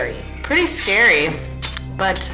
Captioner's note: knives clattering